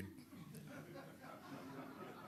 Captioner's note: laughter